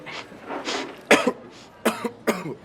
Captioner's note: sniffs; coughs